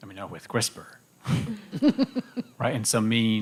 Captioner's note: laughter